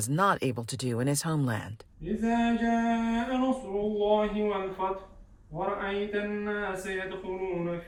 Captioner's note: men praying in foreign language